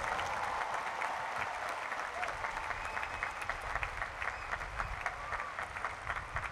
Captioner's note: cheering and applause